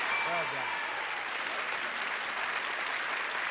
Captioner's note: audience applauding